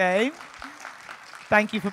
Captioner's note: audience applauding